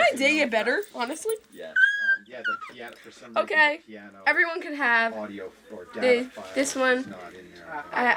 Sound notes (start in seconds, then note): 2.0 squealing